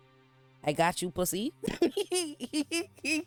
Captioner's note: laughs